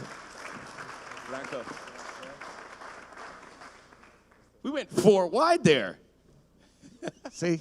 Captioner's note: applause